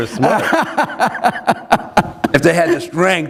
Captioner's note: laughter